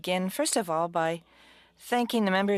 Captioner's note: speaking french